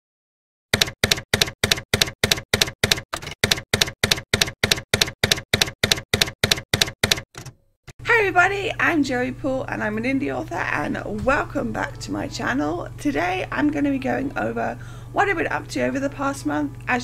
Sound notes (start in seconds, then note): 0.7 typewriter keys clacking